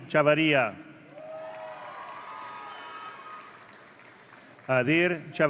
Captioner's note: audience cheering